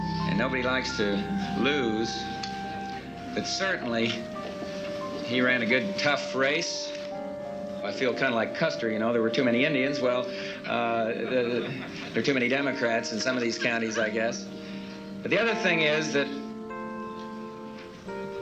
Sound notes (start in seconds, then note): 10.6 audience chuckling